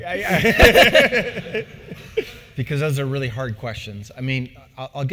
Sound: laugh

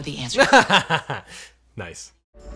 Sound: laughing

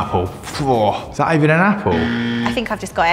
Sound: incorrect buzzer

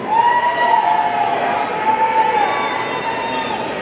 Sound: audience cheering

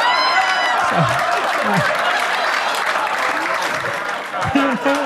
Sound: audience laughing loudly; audience applauding; Gary chuckling

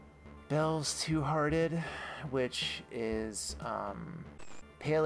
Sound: sigh; static

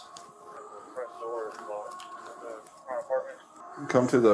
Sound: radio chatter

